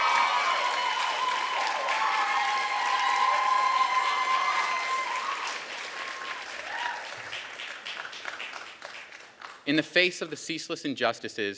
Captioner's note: applause